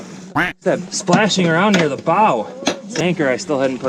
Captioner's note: duck quacking